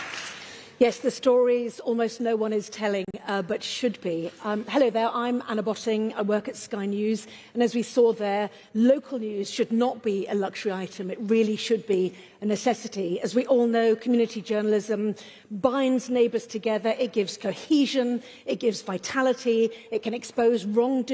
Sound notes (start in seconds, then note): 0.0 applause